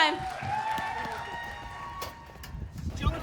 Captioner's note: cheers and applause